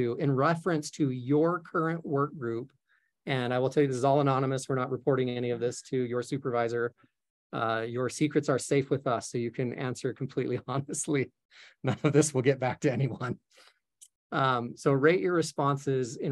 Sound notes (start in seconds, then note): 11.8 chuckling